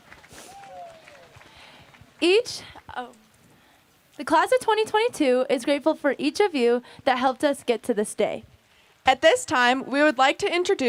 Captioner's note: applause